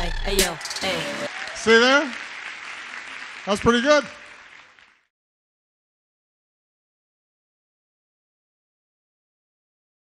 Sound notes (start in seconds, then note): 0.9 audience applauds